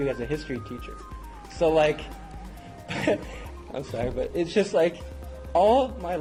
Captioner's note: laugh